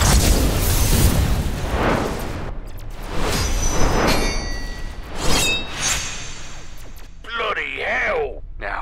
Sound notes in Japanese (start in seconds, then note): 4.0 金属音